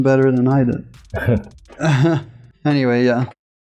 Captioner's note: laughs